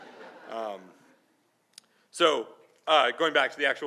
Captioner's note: laughing